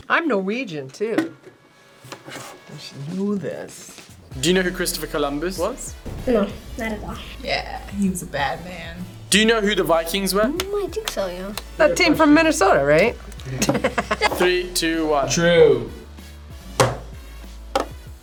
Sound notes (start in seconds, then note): 13.3 laughs